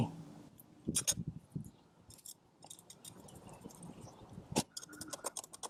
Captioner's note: metal ratcheting